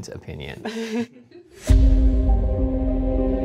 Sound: quietly laughs; gentle suspenseful music

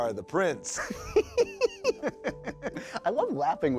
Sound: laughs

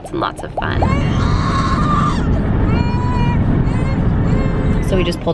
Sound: crying

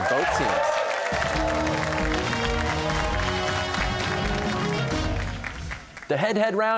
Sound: cheers and applause

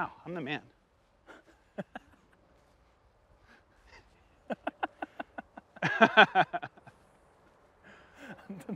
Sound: laughter

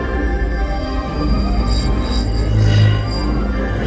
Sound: light sabre like sounds

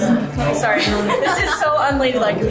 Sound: laughs

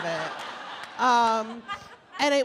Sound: laughing

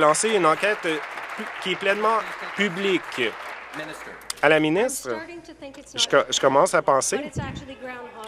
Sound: applause

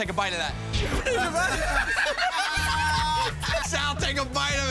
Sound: laughter

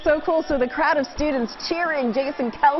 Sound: cheers and applause

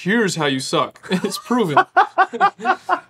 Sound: laughing

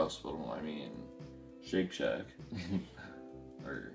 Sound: laughs

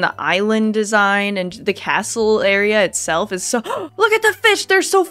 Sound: gasp

